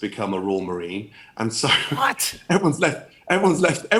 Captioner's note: chuckling